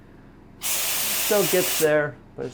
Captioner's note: loud spraying